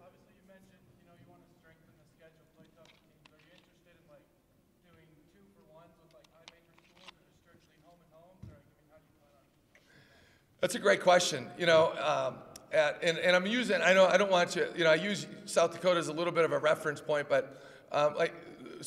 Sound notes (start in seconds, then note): none